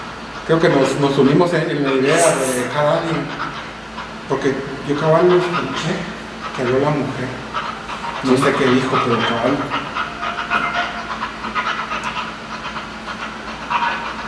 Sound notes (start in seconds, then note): 10.9 laughs